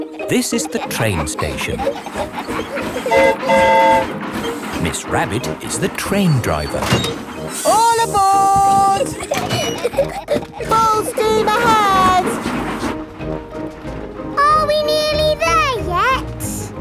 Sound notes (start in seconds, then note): 3.0 train whistle toots; 8.6 giggling